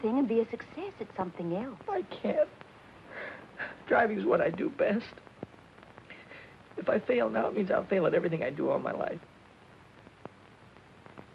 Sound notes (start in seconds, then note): none